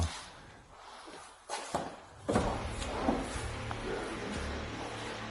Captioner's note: footsteps thudding